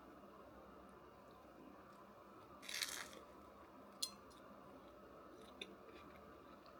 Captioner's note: crunch